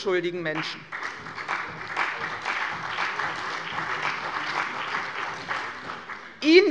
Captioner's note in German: Beifall bei der CDU und dem BÜNDNIS 90/DIE GRÜNEN